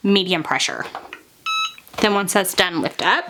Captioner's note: EasyPress beeping